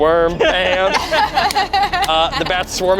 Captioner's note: group laughs